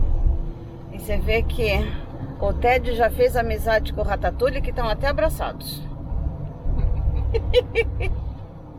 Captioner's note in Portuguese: risos